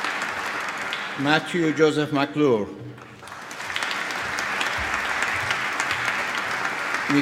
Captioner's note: applause